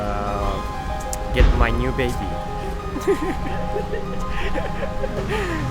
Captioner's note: chuckles